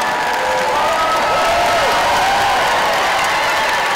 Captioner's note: applause